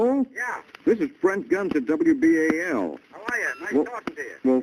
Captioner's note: on phone